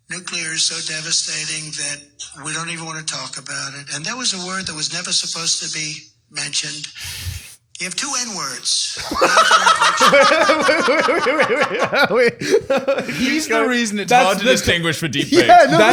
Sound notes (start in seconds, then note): 12.2 all laughing